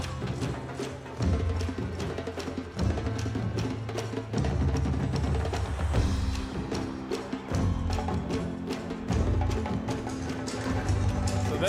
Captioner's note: applause and cheering